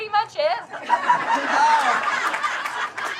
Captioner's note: laughter